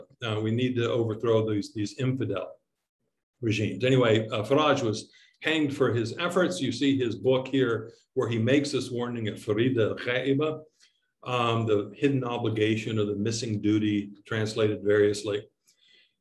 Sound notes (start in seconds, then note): 9.0 speaks in foreign language